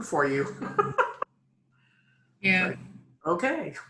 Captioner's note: laughs